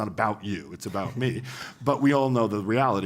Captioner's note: laugh